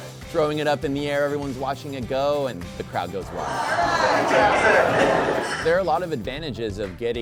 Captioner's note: crowd exclaims